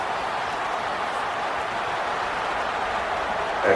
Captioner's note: crowd Noises